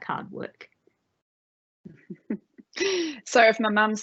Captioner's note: laughing